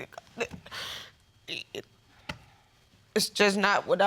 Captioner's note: stammering